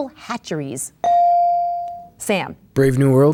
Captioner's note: bell dings